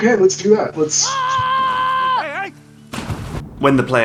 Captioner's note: yells